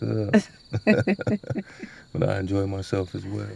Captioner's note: both laughing